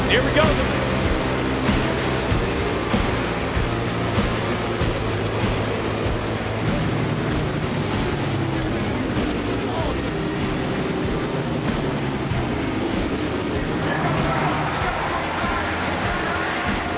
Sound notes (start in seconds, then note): 0.0 motorbike engines roaring; 0.2 upbeat music; 3.4 motorbike engines roaring